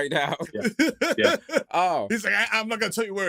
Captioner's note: laughter